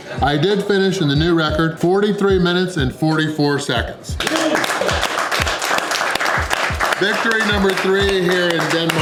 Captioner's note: crowd clapping